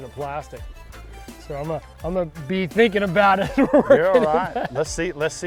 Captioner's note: laughs